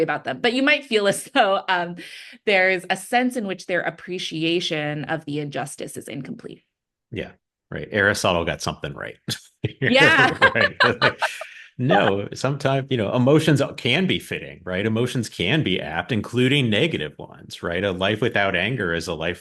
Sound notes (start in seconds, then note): 9.6 both laugh